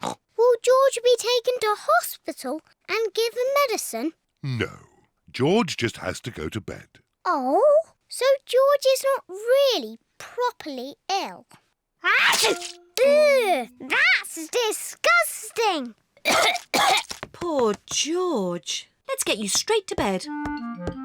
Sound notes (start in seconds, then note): 0.2 oinks; 12.1 sneezes; 16.2 coughs